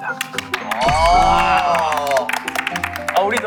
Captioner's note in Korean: 환호